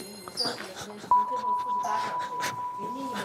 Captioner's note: choking